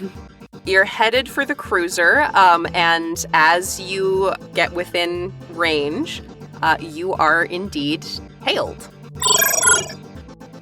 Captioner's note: electronic chirp